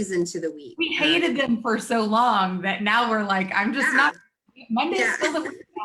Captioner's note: murmurs